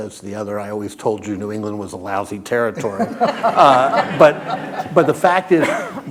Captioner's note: laughter